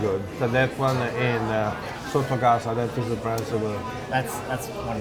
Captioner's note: speaking Italian